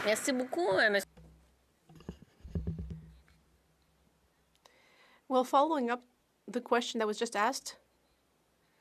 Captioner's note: speaking French